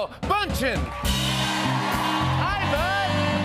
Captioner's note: cheers and applause